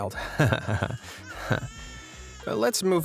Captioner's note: nervous conspicuous laughing